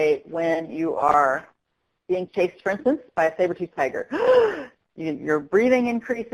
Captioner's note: sharp intake of breath